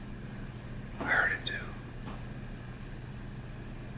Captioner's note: whispers